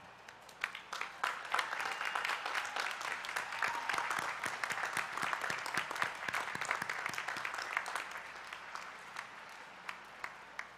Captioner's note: applause